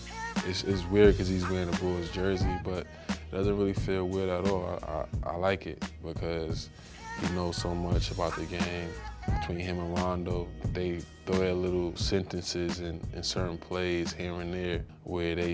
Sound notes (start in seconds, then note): none